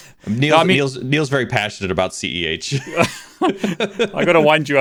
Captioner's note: laughs